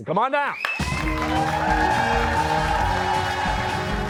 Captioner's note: cheers and applause